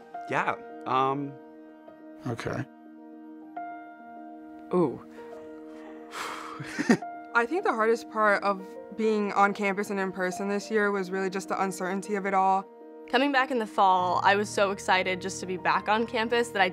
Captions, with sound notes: Yeah...ummm... Ok ... Oh ... [Exhales and laughs] I think the hardest part of being on campus and in person this year was really just the uncertainty of it all. Coming back in the Fall, I was so excited just to be back on campus that I